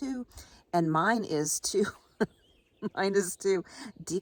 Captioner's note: chuckles